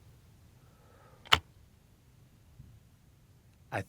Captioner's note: shotgun clicking